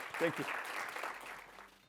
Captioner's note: applause